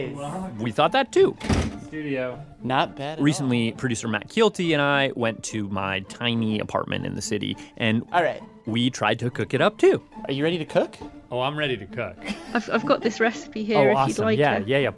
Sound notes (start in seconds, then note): 12.2 laughs